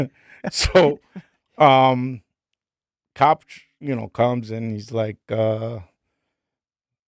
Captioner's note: laughing